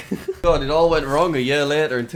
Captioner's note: laughs